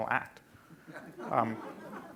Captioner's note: laughing